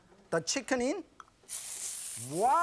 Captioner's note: chicken hisses